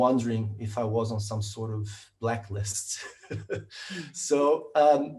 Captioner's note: laughs